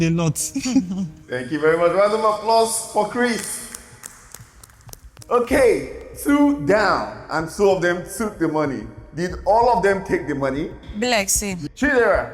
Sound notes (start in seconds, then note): 0.5 laughs; 3.6 clapping